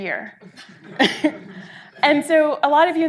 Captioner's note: audience laughing